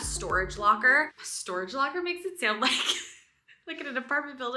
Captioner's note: laughs